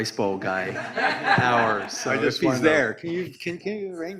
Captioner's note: audience laughs